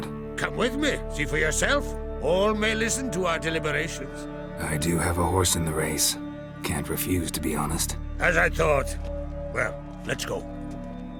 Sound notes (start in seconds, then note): none